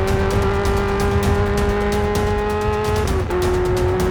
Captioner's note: engine revving